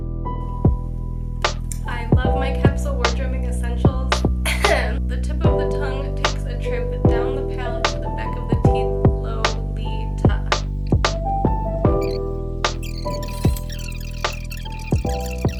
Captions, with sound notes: I love my capsule wardrobing essentials. **Cough** The tip of the tongue takes a trip down the palette to the back of the teeth Lo - Li - Ta.